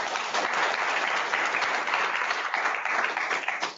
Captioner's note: applause